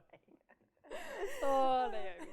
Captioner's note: laughs